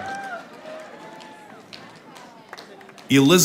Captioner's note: audience applauding